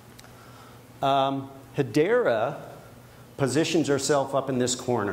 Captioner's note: none